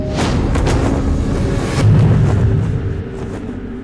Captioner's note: whooshing